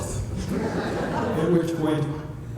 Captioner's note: laughter